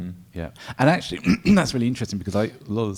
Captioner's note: clears throat